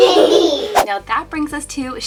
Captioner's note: children laugh